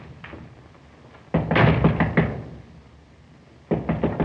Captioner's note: knocking on door